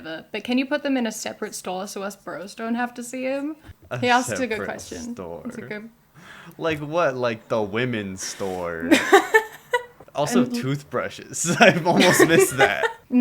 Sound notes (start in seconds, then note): 8.8 laugher